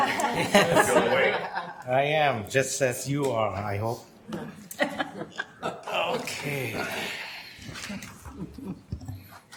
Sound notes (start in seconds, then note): 0.0 laughing; 4.7 woman laughs; 6.6 sighing